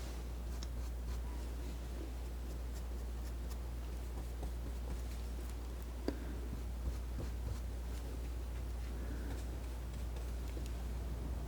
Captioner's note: scratching